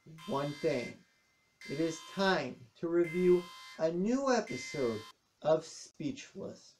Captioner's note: alarm stops